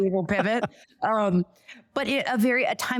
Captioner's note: laughs